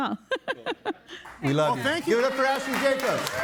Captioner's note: laughing